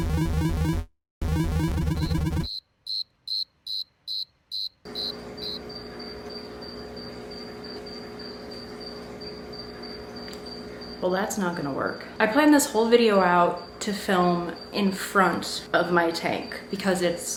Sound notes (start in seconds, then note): 2.5 crickets chirping